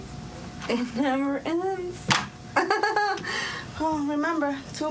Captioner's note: chuckles